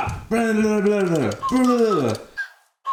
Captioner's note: babbles; whistling music